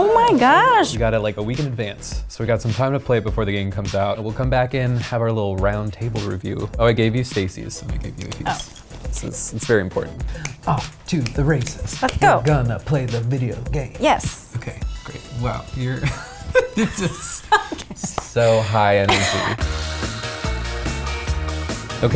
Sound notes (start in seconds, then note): 17.7 laughs; 19.9 upbeat music